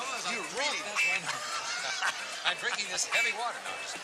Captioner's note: laughs